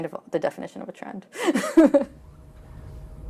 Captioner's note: laughs